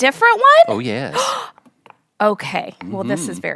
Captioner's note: gasps